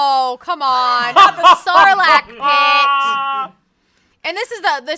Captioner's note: laughs